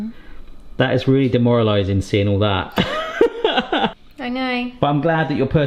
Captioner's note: laughs